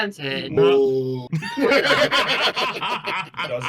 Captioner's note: laughing